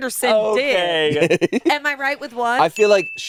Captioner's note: laughs